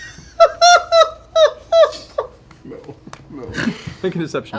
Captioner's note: laughter